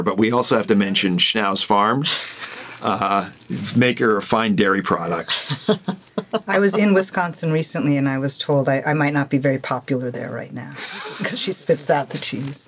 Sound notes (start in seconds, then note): 5.1 laughs